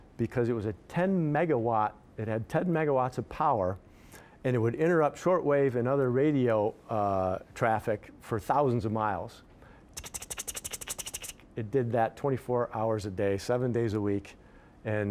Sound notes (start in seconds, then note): 9.9 mimicking rapid electrical ticking